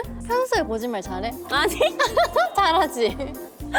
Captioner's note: exaggerated laughter